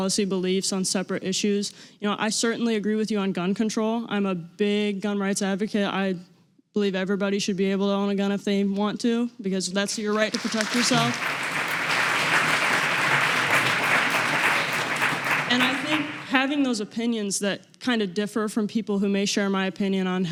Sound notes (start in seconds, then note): 9.9 audience applause